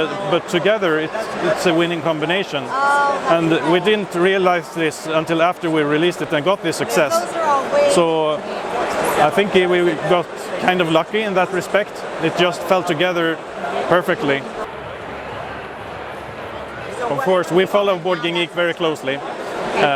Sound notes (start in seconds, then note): 14.9 crowd noises